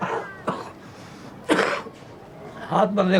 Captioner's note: coughing; non-english speech